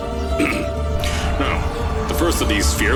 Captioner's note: ahem